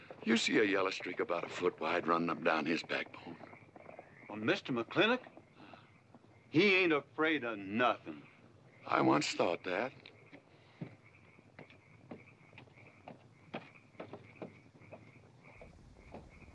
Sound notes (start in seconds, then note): 11.5 footsteps up stairs